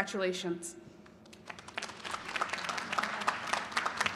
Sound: applause

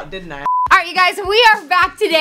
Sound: beep sound

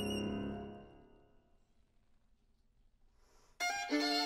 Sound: music Stops

